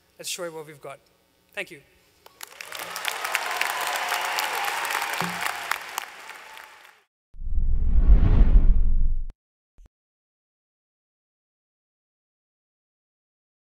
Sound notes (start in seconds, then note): 2.2 applause